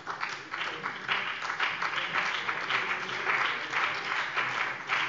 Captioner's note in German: Beifall BÜNDNIS 90/DIE GRÜNEN und CDU